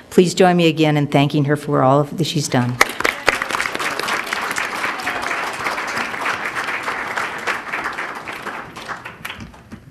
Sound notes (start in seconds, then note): 2.8 crowd applauding